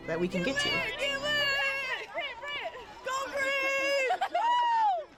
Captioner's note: women cheering